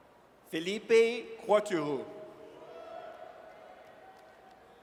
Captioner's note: audience cheers